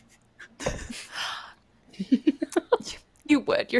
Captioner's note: giggles